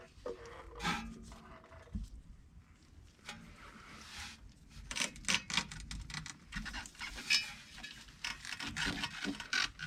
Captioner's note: coil sounds